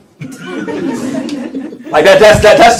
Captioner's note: laughter